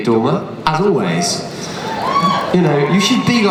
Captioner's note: cheers